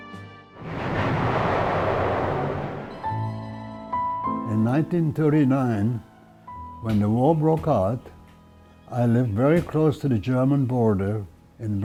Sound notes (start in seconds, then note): 0.6 loud explosion; 3.9 soft melancholic music